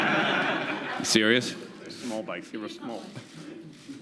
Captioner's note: laughter